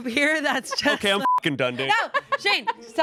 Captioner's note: beep